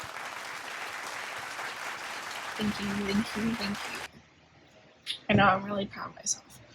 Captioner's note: applause